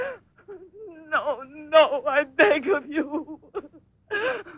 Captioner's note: sobbing